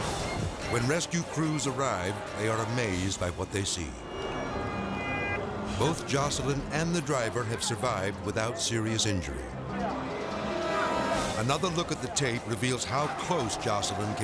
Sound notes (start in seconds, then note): 4.1 siren wailing